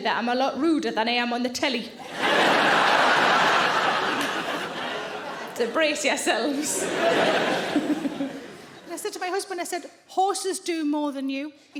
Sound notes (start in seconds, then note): 2.0 audience laughing; 7.5 Sarah laughing